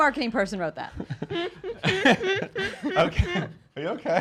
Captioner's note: laughing